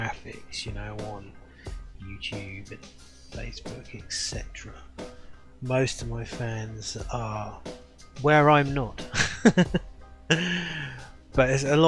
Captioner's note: laughs